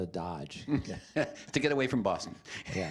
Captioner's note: chuckling